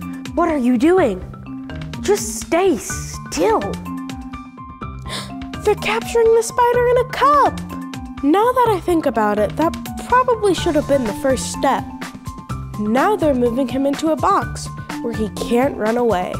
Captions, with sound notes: What are you doing? Just stay still. (gasping) They’re capturing the spider in a cup! Now that I think about it, that probably should of been the first step. Now they’re moving him into a box where he can’t run away.